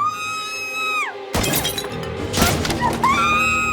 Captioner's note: Maria screaming; pottery shattering; bullet thumping; bullet whining; Maria screaming